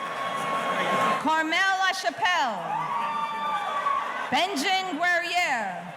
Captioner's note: audience cheering